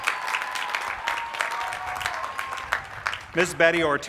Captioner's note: applause